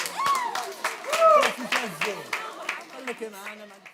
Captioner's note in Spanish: Aplausos